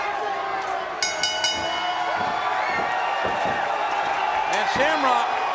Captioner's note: crowd cheering; bell rings